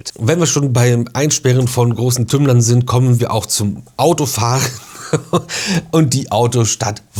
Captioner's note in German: gelächter